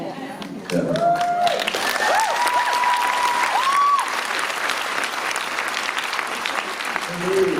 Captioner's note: applause and cheers